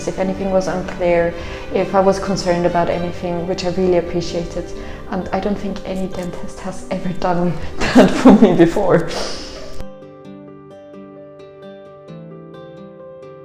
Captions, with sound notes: if anything was unclear, if I was concerned about anything, which I really appreciated. And I don't think any dentist has ever done that for me before. (chuckles) (bright lively music)